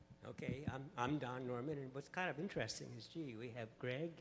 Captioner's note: voiceover